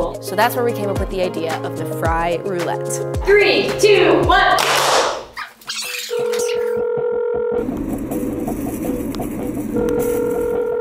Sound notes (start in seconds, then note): 4.5 clapping; 6.1 phone ringing